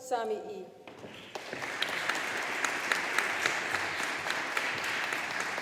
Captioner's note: audience applauding